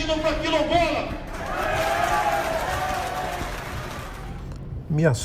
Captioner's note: applause